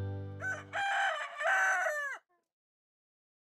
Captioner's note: rooster crowing